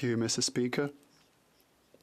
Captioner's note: speaking French